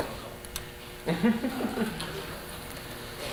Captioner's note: chuckling